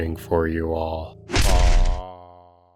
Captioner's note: thud